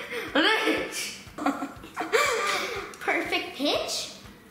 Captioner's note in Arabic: يضحك